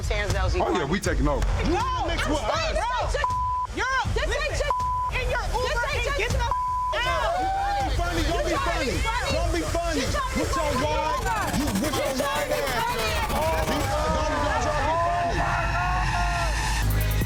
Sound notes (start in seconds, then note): 1.6 people shouting indistinct; 7.2 people shouting indistinct; 14.1 tense suspenseful music; 17.0 smooth hip-hop music